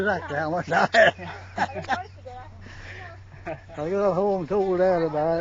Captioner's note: laughing